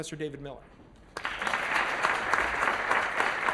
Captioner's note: applause